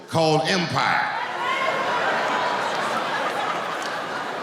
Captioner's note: laughing